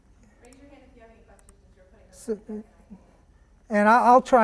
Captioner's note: voiceover